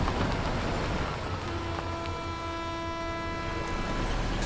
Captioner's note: train horn